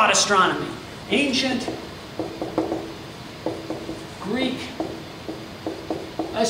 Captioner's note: marker clacks